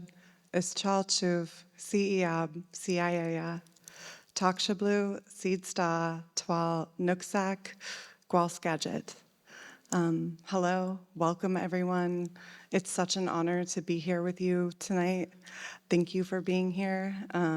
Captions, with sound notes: [ Foreign Language ] Hello, welcome everyone. It's such an honor to be here with you tonight. Thank you for being here.